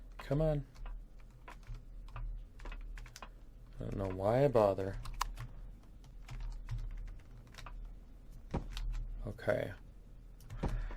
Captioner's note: keystroke